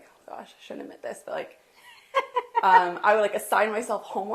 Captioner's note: laughs